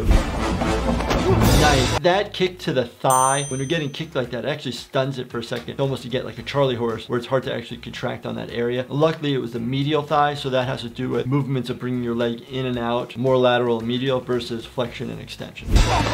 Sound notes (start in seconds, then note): 0.0 intense music; 3.1 loud dinging